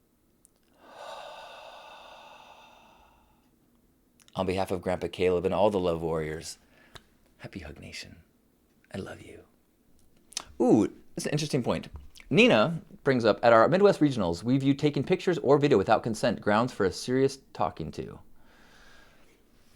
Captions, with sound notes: (exhales) On behalf of Grandpa Caleb and all the Love Warriors, Happy Hug Nation. I love you. Ooh, that's an interesting point. Nina brings up, at our Midwest Regionals we view taking pictures or video without consent grounds for a serious talking to.